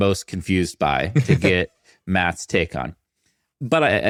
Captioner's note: chuckling